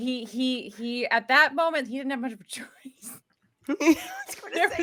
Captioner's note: laughs